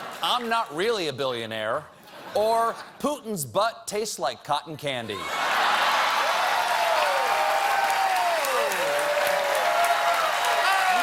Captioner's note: cheers and applause